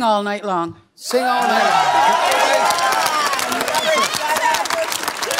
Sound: cheering

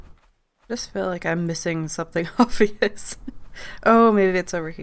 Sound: laughs

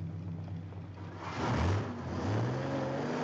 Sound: engine revs

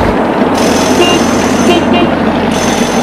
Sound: car horn beeps; large engine revs

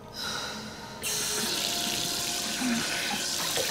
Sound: sighs; water runs

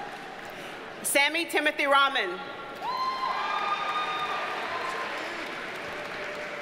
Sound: audience cheers and applauds

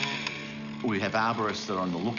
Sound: chainsaw buzzes

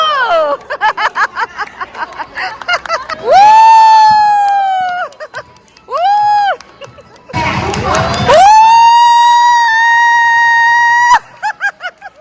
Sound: applause; scream

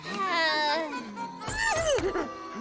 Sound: sighing; shrieking

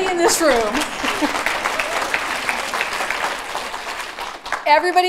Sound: applause

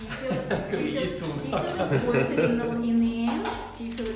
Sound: laughs

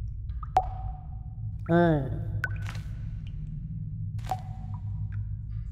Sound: water drops, in rythmn; alien talk

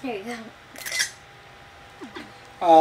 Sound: camera shutter snaps

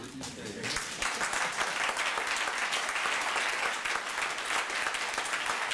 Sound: applause

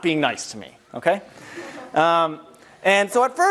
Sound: laugh

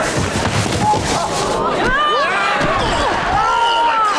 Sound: groaning

